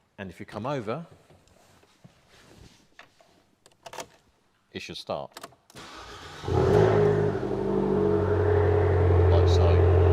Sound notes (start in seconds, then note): 5.7 starts engine